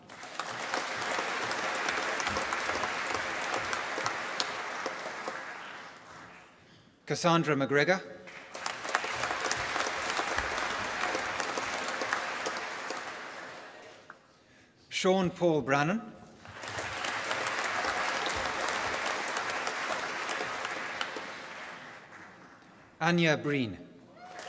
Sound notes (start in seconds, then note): 0.0 applause; 8.2 applause; 16.4 applause